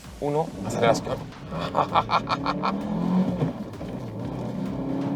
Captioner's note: satisfaction laugh